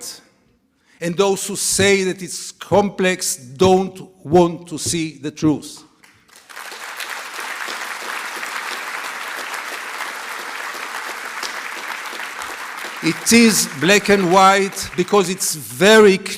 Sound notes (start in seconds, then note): 7.1 applause